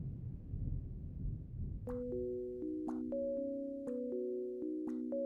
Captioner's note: water dripping rhythmically